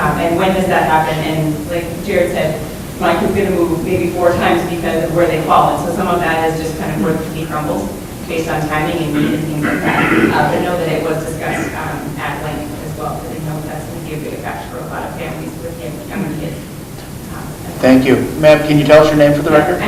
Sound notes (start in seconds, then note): 9.1 drowned out by throat clearing; 16.7 speaking off microphone